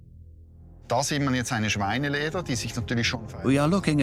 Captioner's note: speaks German